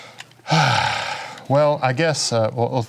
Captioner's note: sighing